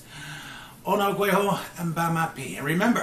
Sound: speaking Mohawk and Ojibwe

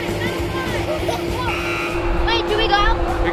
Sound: buzzer

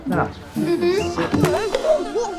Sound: agreeing noises

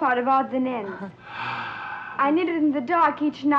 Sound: Otto sighs

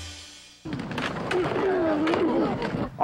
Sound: all grunting

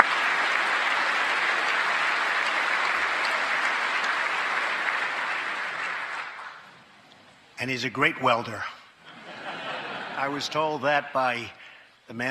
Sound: applause

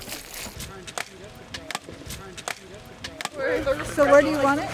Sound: wood tapping

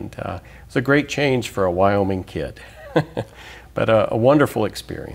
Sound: laughs

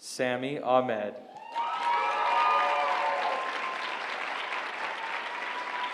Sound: applause

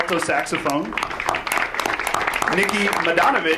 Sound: audience applauds

